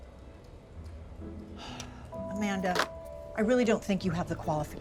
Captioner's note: sighs